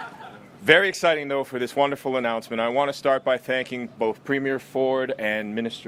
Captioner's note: laughter